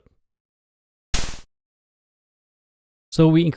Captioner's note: one soft burst of static